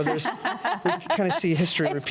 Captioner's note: panel laughs